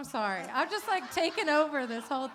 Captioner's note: laughter